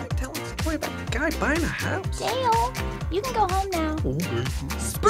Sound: background conversation

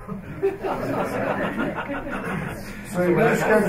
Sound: laughter

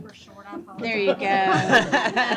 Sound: laughter

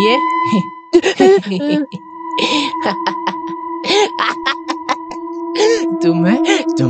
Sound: Doraemon creepily Laughing

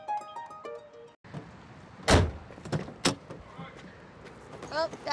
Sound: stammers

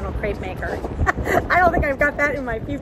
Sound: laughing

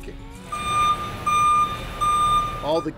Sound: electronic beeping

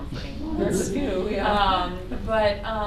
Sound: laughter

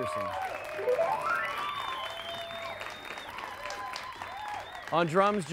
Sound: audience cheering; audience applauding

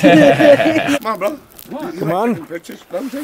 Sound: laughter

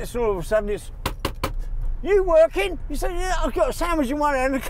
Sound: knocks

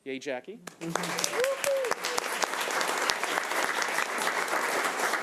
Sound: audience applauds

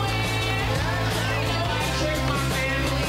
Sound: crowd cheering

